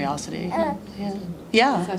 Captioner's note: baby grunts